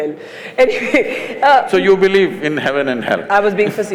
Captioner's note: laughs